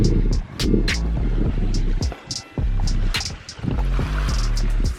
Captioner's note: water babbling